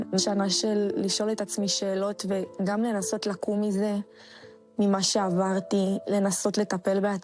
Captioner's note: speaking in a global language